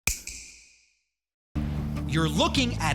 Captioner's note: snap